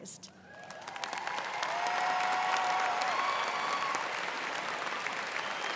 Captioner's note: students cheering and applauding